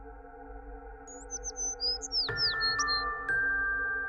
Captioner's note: birds chirping; %*#ling music